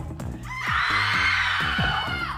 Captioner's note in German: Sie schreien